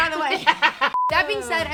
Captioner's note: laughing